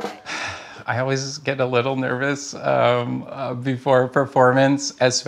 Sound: quiet chatting, drum taps; sighs

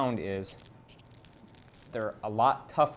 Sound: roll cracking

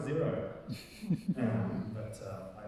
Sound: audience laughing

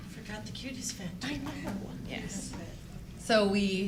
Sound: chattering

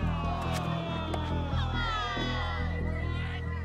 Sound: crowd Groans

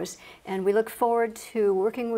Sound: none

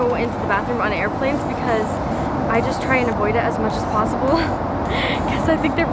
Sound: laughs

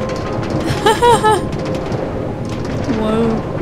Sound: chuckling

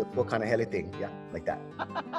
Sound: laughs

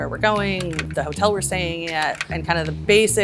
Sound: screen scrolling

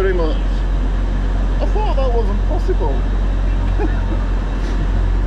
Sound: laughs

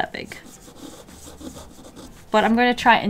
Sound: drawing sounds

